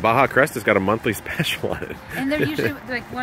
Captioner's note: chuckles